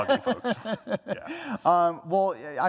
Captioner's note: laughter